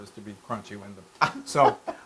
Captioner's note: laugh